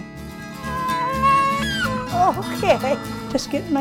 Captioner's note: baby cries